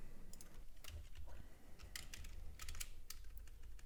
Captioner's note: clicking